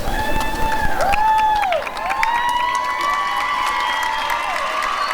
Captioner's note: cheering and applause